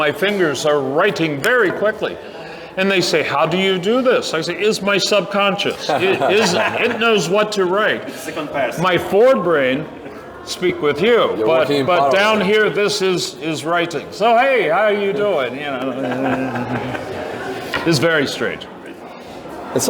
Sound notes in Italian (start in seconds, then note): 15.6 risate